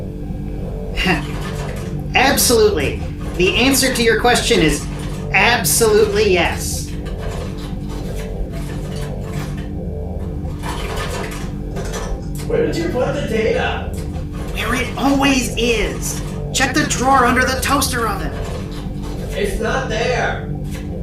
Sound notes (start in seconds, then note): 1.0 nervous laugh; 7.3 distant rummaging